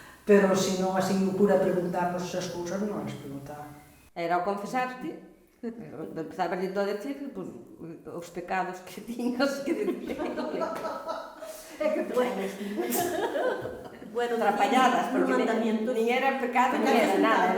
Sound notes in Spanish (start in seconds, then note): 9.5 risas